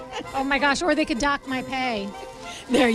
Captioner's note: laughs